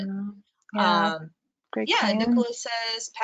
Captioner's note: murmurs